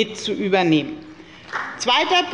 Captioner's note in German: Beifall bei der FDP